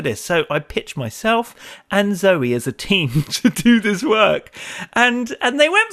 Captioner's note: chuckles